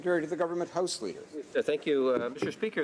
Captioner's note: speaking French